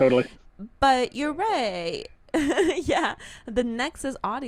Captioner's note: laughs